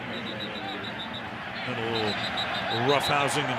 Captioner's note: pa announcement